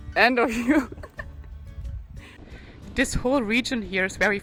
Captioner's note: laughing